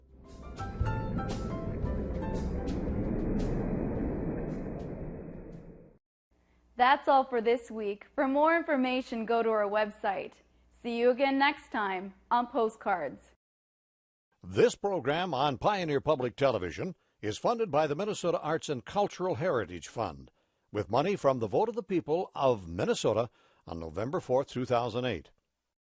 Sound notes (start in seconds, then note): 0.0 mellow music; 14.6 voiceover